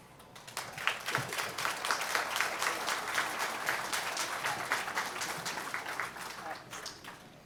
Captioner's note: applause